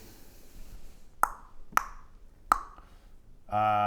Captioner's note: thinking clicks